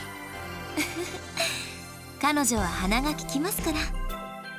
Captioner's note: chuckle